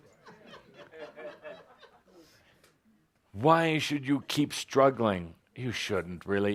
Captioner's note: laughter